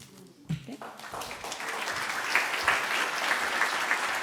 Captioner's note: applause